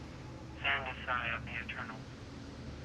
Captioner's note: radio